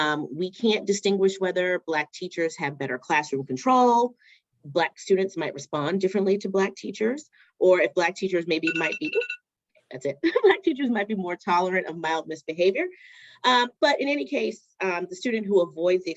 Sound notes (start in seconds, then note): 8.6 alarm rings